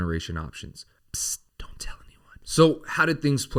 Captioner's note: whispers